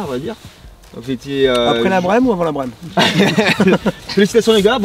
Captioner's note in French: rires